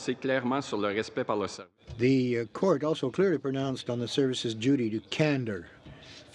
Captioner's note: speaking French